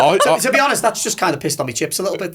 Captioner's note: laughing